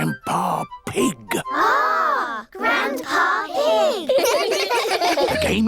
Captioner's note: giggling